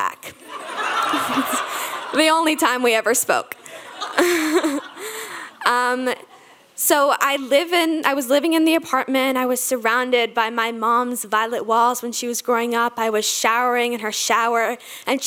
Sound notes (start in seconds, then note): 0.4 audience laughing; 3.6 laughing; 3.6 audience laughing